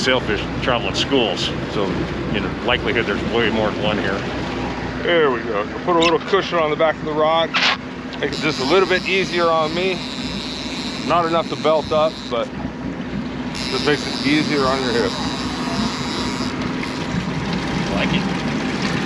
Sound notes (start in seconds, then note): 8.2 reel cranking; 15.5 reel cranking